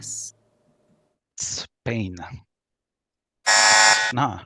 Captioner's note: buzzer